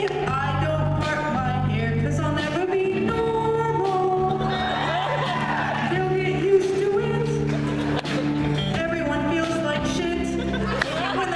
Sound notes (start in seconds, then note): 4.2 laughter and applause; 7.4 laughter; 10.1 laughter